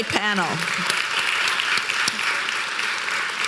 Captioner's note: applause